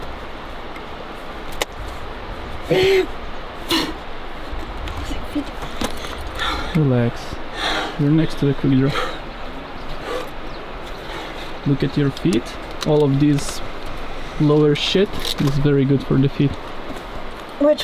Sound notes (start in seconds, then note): 2.7 groans, mumbles under breath